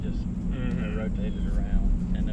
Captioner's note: mhmm